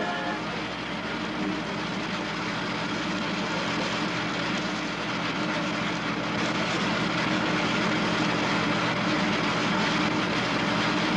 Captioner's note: tractor Engine Noise